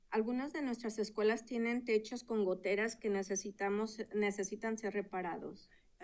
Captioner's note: speaking in Spanish